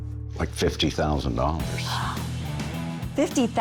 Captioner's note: gasps